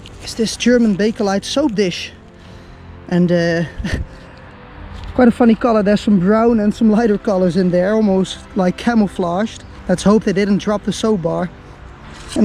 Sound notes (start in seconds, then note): 3.7 chuckles